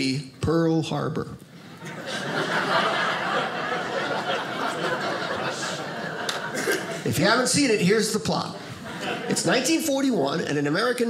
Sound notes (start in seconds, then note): 1.8 audience laughing